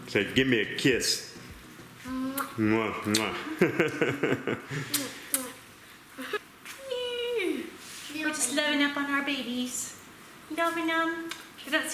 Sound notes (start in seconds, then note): 3.0 kissing; 3.8 laughs